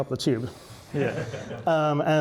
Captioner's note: laughing